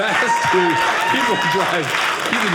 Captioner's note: audience laughing